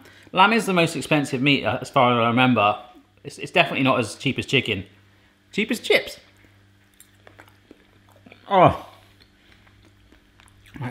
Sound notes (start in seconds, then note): 6.8 chewing sound